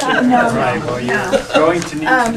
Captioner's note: laughing